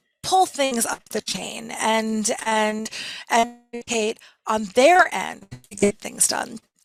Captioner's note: audio distorts